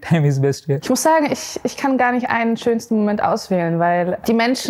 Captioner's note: in german